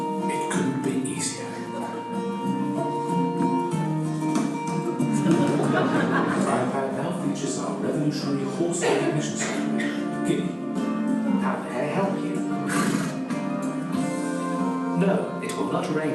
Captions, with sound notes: 'It couldn't be easier.' (LAUGHTER) 'It now features our revolutionary horse-recognition system. — 'How can I help you? — '(SNORTS)'